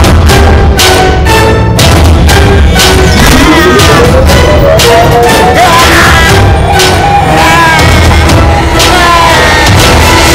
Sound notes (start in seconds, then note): 3.2 Screaming